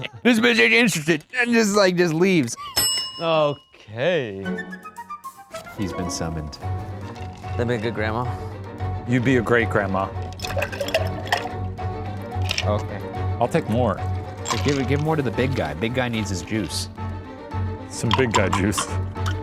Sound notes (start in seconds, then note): 0.0 laughing; 2.7 bell ringing; 4.4 upbeat music; 10.3 ice thumping